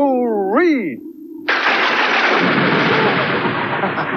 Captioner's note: sound Of Thunder